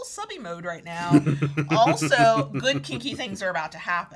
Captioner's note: chuckles